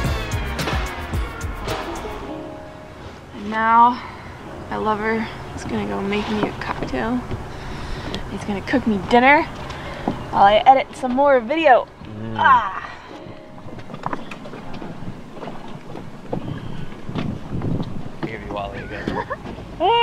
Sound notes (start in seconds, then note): 12.0 grunts